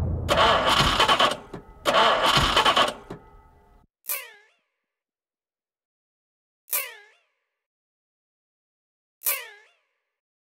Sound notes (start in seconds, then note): 0.0 flat battery noise; 1.7 engine won't start noise; 3.9 quiet squeak; 6.5 quiet squeak; 9.2 quiet squeak